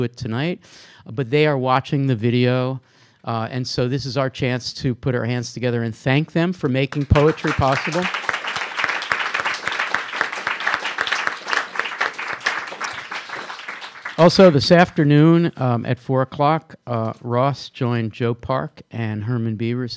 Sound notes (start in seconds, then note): 10.0 applause